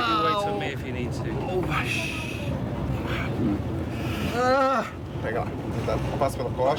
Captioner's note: Stephen groaning